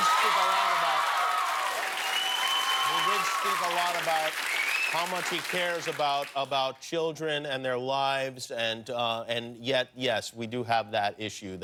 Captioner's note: cheers and applause